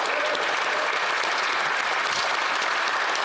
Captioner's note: applause